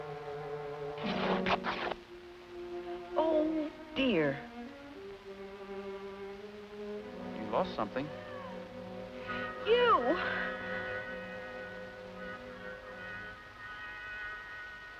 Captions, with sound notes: [tearing clothing] Oh dear. You lost something. You!